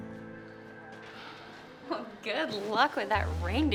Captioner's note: Ashley sighs